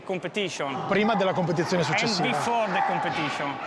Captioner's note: speaks in Italian